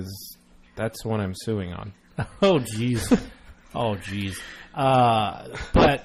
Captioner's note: laughs